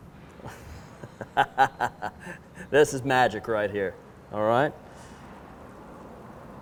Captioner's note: laughs